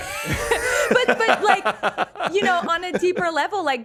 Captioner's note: laughs